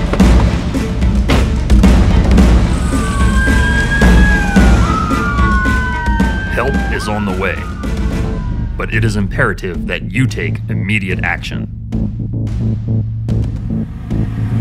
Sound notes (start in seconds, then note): 0.1 suspenseful music; 2.2 sirens wail; 12.1 suspenseful music